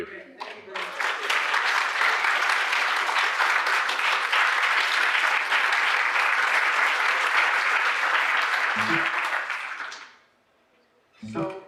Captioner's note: applause